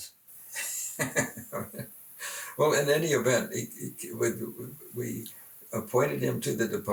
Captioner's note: laughs